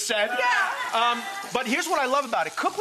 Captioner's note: audience jitters